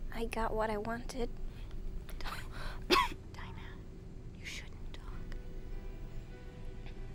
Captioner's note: coughing